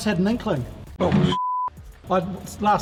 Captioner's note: beep